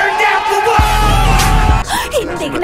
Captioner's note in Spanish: múltiples explosiones